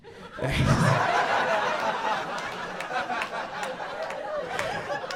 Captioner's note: audience lauging